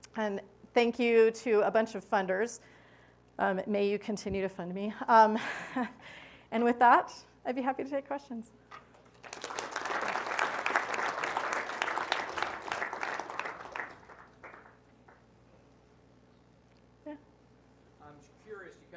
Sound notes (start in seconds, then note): 9.0 applause